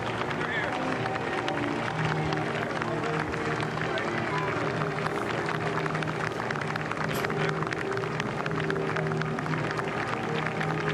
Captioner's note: cheering; applause